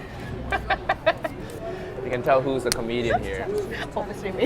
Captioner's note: laughs